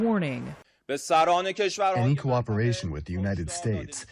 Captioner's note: through translator